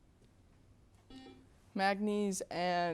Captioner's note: buzzer beeps